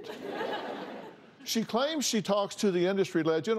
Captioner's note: laughter